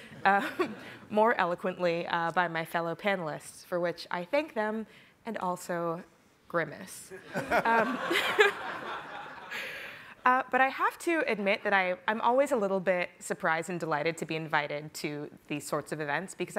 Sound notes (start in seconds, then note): 7.1 group laughing